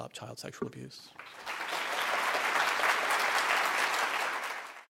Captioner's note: applause